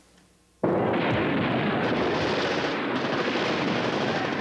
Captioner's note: near and distant gunfire